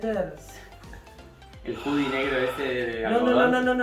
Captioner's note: sigh